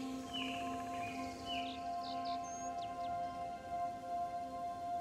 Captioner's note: birds chirping